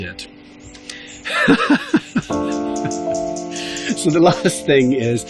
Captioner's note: laughter